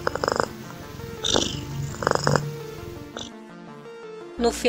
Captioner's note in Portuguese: ronrom